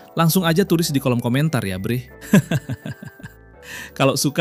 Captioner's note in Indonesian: tertawa